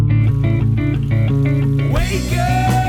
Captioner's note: fountains murmuring